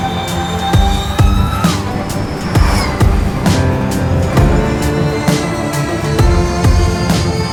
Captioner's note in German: elektronische Fahrgeräusche